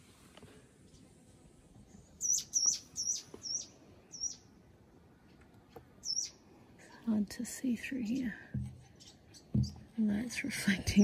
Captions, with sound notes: [bird chirps loudly] It's hard to see through here. The light's reflecting.